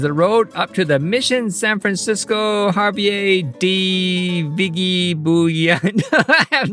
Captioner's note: laughs